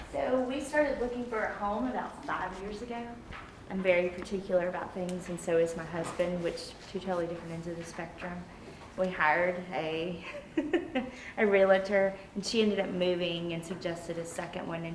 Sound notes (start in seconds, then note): 10.3 laughs